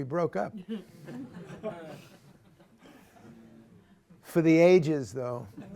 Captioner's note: laughter